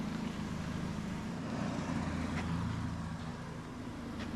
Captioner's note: car whirring